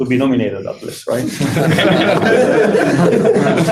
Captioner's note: laughter